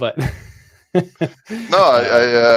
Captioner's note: laughs